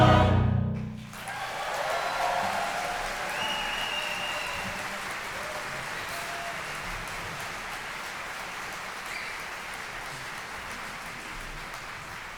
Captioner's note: applause